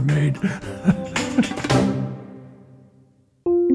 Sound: laughter

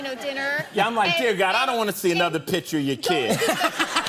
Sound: laughter

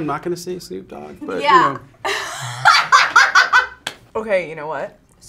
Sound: laughs

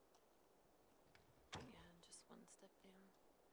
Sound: door closes

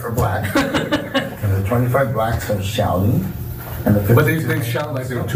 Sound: laugh

